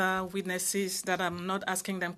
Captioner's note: speaking French